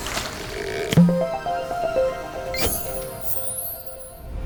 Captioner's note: playful chime